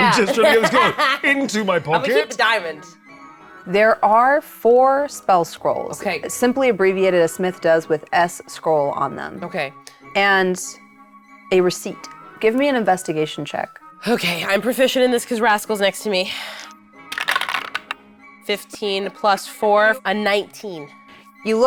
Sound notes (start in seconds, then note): 17.1 dice rattling